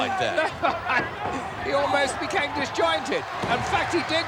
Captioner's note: laugh